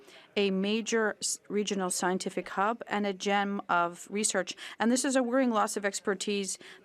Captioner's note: speaking French